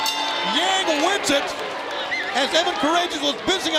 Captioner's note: bell ringing